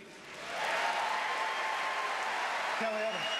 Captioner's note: applause